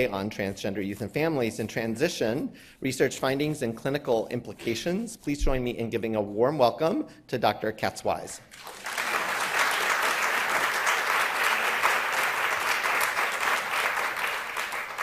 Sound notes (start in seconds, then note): 8.5 audience applauding